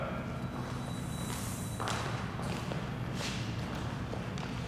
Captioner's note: footsteps tapping